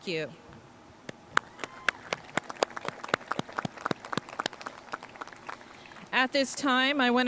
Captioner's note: audience cheering and applauding